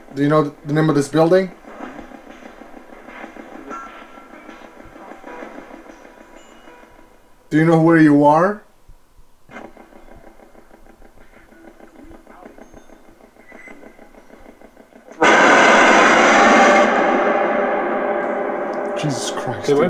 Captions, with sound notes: Do you know the name of this building? Do you know where you are? (loud roar) Jesus Christ.